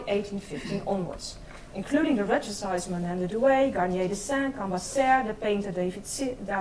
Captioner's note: speaks in foreign language